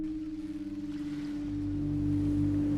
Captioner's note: tense music; seagulls mewing; ominous music